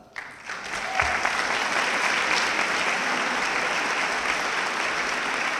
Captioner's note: audience clapping